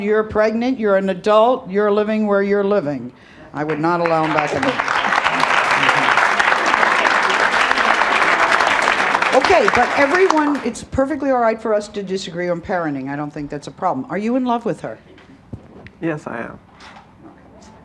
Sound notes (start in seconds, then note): 3.6 audience applauds